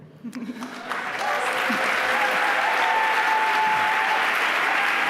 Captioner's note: applause